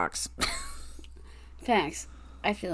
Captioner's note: laughs